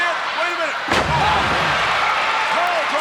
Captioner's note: wrestlers thud